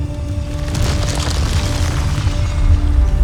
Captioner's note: mystical music playing; ice cracking; music swells